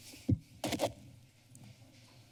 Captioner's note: scratching sound